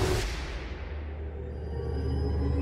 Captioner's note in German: Explosion